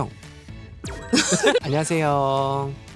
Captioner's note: laughs, NG